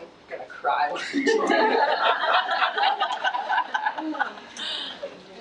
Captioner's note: audience laughs